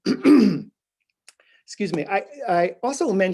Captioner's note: clearing throat